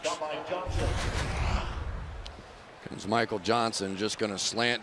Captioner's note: pa announcement